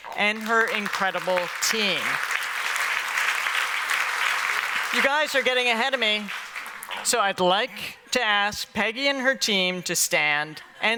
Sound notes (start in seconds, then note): 2.1 applause